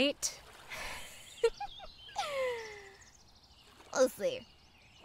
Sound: mischievous laugh

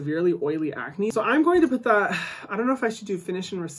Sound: sighs

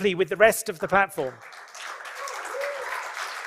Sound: applause

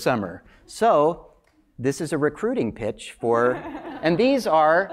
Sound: laugh

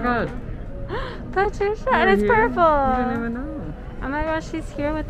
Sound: gasps

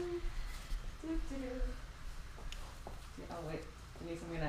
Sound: humming

